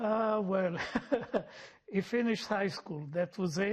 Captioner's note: laughing